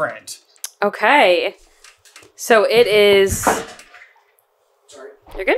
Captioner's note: offscreen crash